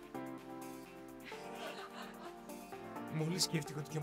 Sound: laughs

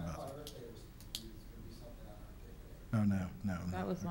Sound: faintly speaking

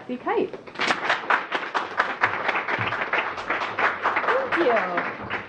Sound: applause

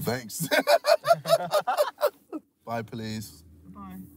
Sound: laughing

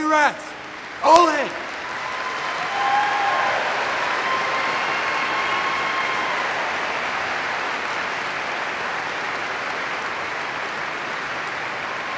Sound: applause

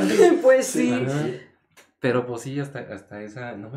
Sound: laughing & agreeing

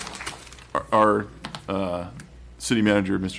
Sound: applause

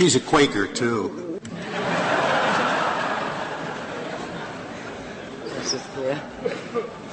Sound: laughter

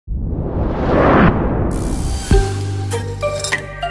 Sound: logo sound

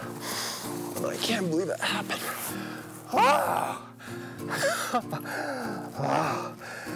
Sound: heavy sighs of relief

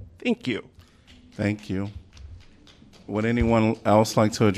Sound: applause

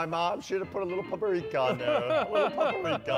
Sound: upbeat piano music; laughs

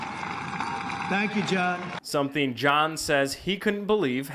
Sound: cheering and applause

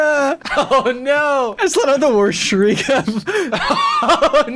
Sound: laughs

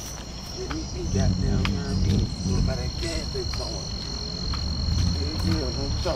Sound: indistinct chatter

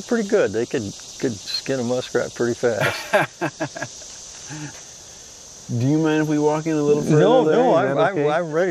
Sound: laughs

